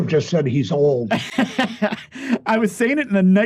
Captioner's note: laughing